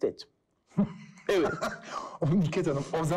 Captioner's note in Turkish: Gülüyor